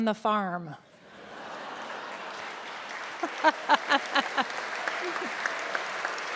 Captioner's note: audience clapping and laughing